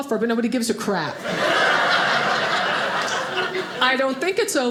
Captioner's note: audience laughing